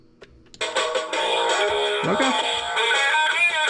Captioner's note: radio plays